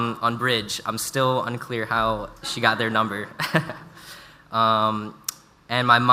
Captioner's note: chuckles